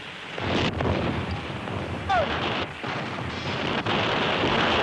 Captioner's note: soldier speaking in foreign language; artillery booming